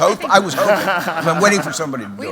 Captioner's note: laughter